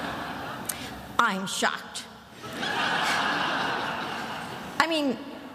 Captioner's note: attendees laughing; attendees laughing